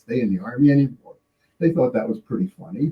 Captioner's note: laughing